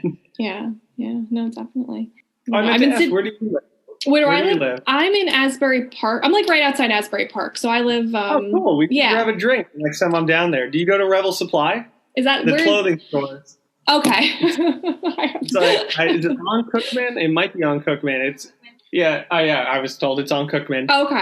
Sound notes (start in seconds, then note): 12.4 laughing